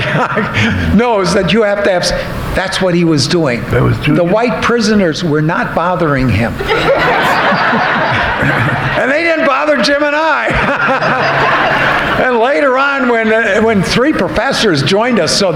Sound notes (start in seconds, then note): 6.6 audience laughing